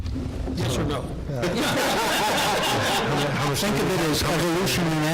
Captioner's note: laughing